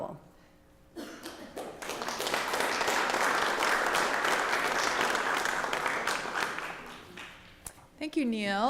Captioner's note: applause